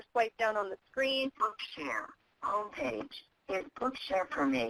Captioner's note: voiceover